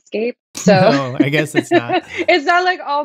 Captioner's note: laughter